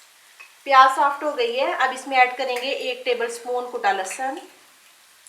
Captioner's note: crushed